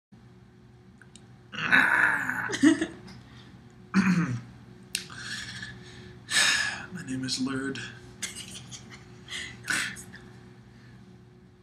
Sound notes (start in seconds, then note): 4.0 clears throat and sighs; 8.2 laughs